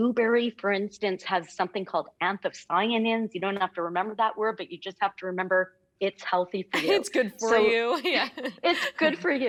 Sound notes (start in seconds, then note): 7.8 laughing